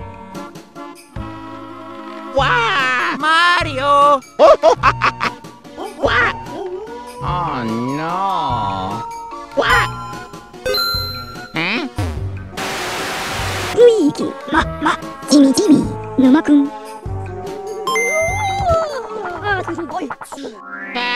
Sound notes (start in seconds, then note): 9.7 notification